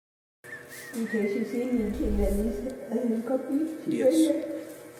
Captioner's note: speaking in foreign language